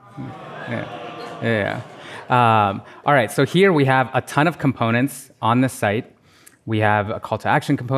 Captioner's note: laughter